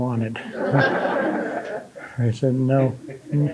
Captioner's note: audience laughing